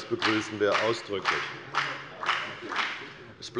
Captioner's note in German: Beifall bei der FDP